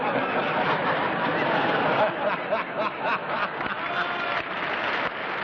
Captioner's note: laughter